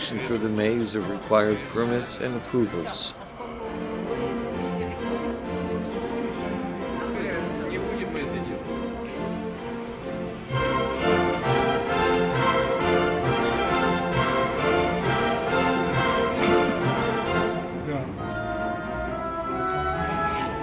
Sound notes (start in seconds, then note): 3.6 lively orchestral music; 6.5 people chattering in the Russian language